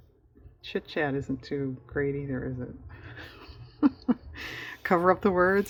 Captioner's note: laughs